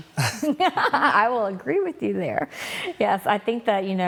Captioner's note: laughs